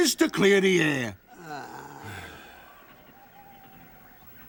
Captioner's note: Ethel groans